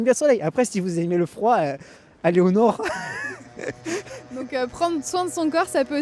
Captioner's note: laughs